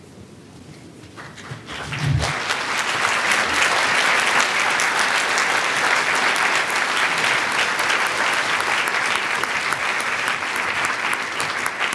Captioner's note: applause